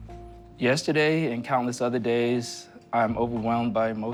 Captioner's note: none